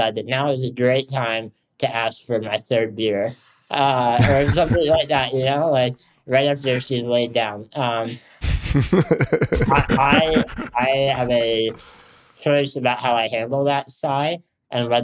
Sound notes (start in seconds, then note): 3.8 Justin laughs